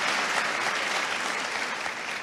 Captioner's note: applause